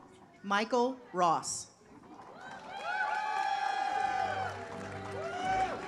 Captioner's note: audience applauds